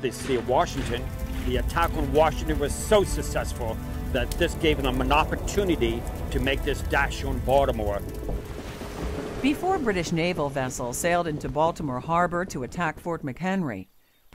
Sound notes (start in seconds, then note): 7.9 ocean sounds